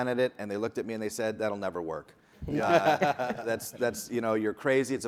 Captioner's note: people laughing